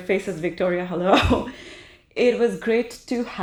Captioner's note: chuckles